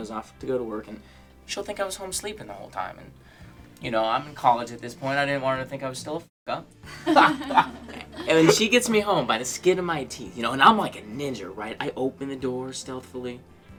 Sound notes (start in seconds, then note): 6.9 laughing